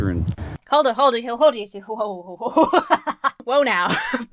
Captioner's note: laughs